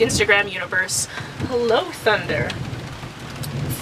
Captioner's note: thunder